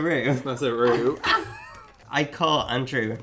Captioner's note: laughing